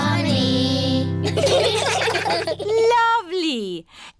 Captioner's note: children giggling